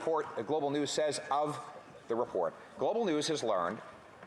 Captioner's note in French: voix de l'interprète